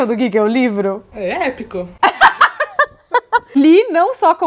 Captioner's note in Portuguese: risos